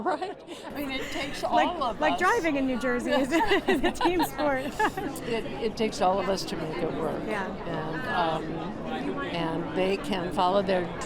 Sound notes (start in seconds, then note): 3.2 chuckles